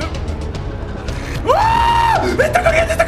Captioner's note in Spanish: Grita